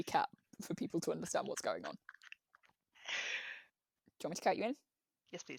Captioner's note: laughs